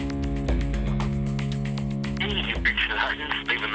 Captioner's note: voice recording